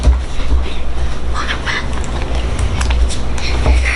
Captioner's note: whispering